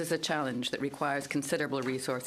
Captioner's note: speaking in French